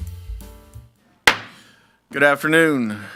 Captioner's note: gavel bangs